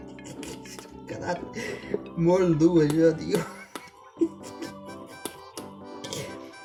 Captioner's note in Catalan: Riu; Riu